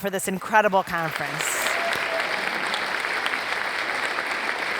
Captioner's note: audience applauding